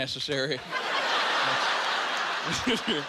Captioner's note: laughing